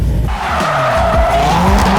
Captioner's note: tires screeching